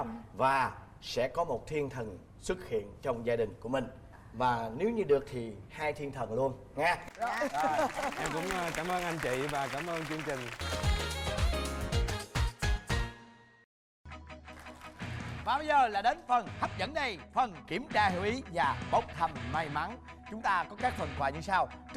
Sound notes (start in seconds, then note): 7.0 applause